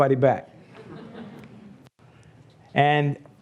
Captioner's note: laughs